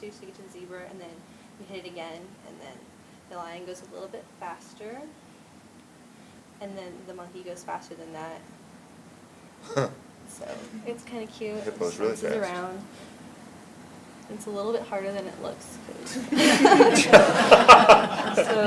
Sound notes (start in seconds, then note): 9.6 chuckles; 16.0 laughing; 16.1 laughter